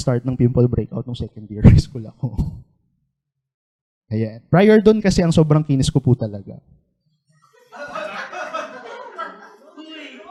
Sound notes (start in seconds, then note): 7.4 laughter